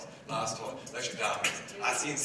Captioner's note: beatboxing